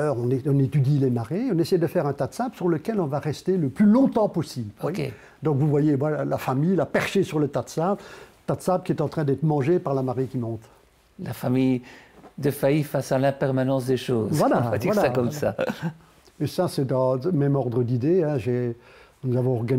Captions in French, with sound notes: pendant des heures. On étudie les marées. On essaie de faire un tas de sable sur lequel on va rester le plus longtemps possible. Donc, vous voyez la famille perchée sur le tas de sable, qui est en train d'être mangé par la marée qui monte. - La famille Defays face à l'impermanence des choses. - Voilà. - On va dire cela comme ça (rire). - Ca, c'est dans le même ordre d'idées.